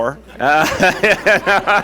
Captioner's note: laughter